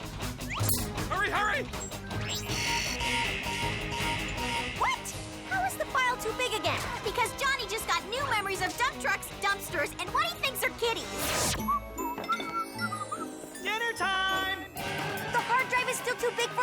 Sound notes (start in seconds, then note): 2.0 alarm buzzes; 11.6 dad whistles